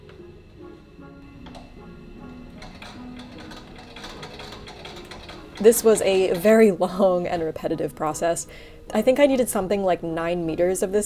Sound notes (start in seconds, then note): 3.1 antique machine whirls